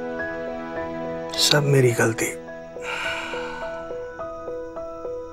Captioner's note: Sighs